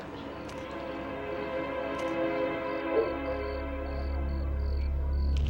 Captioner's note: sirens wailing; eerie music